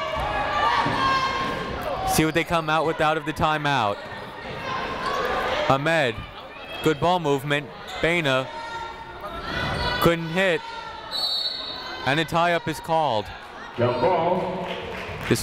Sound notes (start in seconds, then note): 0.0 people shouting in the crowd; 4.5 people shouting in the crowd; 11.1 whistle tweeting